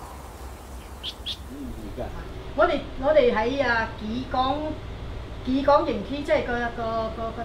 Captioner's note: Cantonese